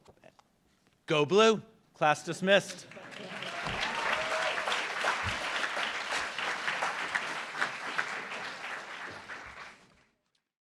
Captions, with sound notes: Go blue. Class dismissed. (applauds)